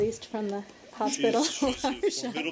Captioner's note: laughter